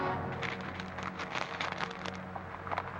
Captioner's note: paper rustling